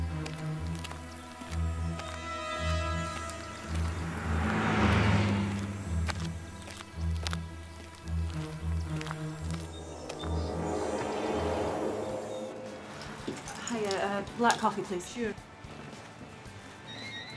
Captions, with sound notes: (birds singing) (car passes) - Hiya, black coffee please. - Sure.